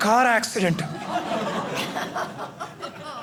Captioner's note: audience laughing